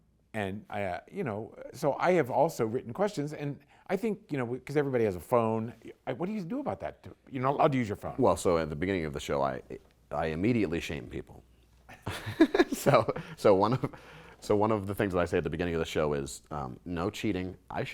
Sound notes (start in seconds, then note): 11.8 quiet laugh